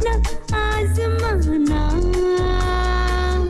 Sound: none

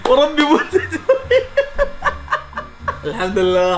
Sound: laughs

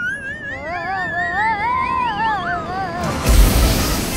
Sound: Tommy screaming; smoke puffing

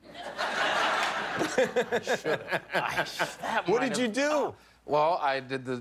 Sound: laughter

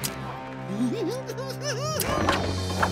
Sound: evil laugh

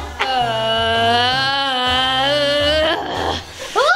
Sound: groaning

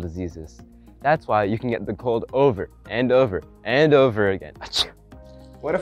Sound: sneezes

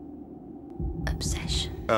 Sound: whisper

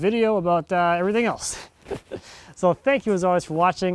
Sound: laughing

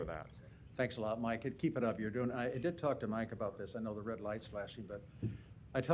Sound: none

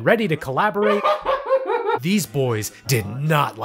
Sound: laughs maniacally

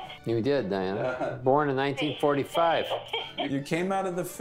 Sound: laughs

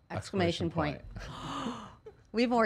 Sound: gasping

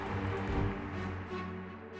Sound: cheers and applause

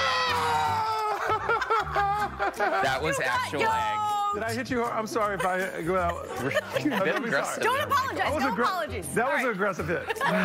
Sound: laughter

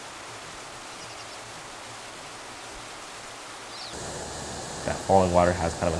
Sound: water rushing

